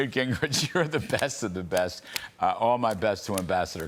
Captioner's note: laughter